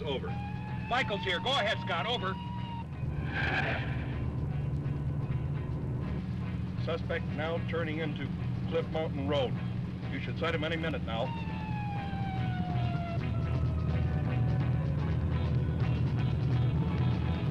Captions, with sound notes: - Michaels here, go ahead, Scott. Over. (tires screech) - Suspect now turning into Cliff Mountain Road. You should sight him any minute now. (siren blaring) (tense music)